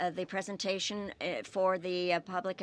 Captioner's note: speaking French